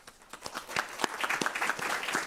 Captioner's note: applause